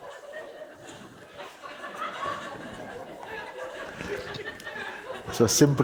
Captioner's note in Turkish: Kahkaha devam eder